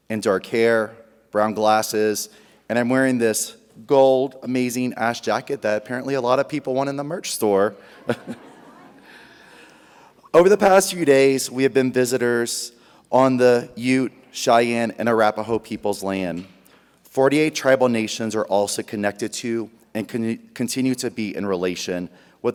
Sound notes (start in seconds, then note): 7.8 audience laughs; 7.9 laughs